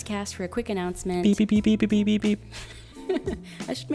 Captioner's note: beeping; chuckles